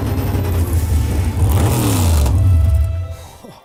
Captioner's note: vrooommmmm